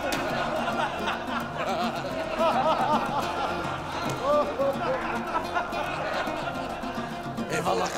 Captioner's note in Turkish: Gülme sesleri